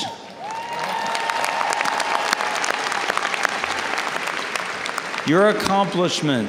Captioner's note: audience cheers and applauds